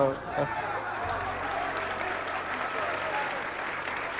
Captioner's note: applause